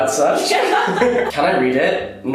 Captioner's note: both laughing